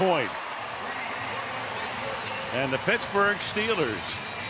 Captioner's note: cheering